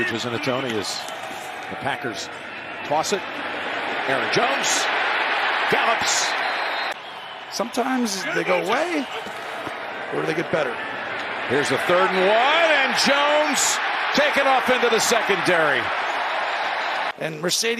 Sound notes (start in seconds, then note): 13.9 crowd noise; 15.5 cheers and applause